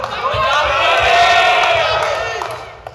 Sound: audience shouts Punjabi

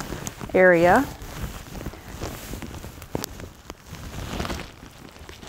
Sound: gown rustling

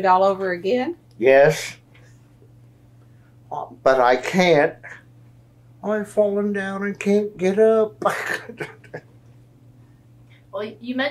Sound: laughs

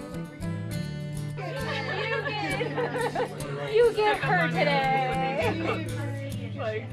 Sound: laughs

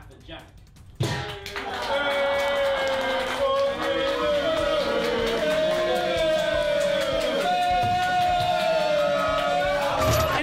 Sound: all booing and clapping

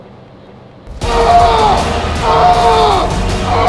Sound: screaming

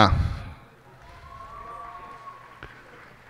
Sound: cheers and applause

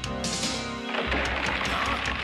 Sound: crumbling noises

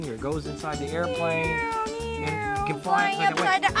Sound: imitates airplane

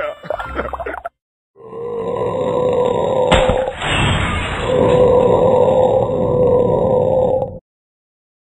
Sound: laughs; he belches so loud

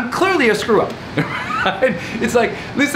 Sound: loughs loudly

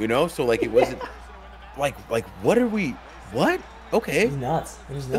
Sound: laugh

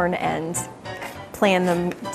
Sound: shuffling

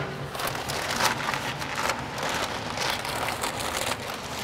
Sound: paper crinkling

